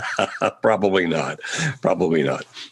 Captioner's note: laughing